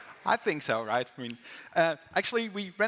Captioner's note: applause